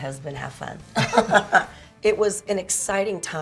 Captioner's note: both laugh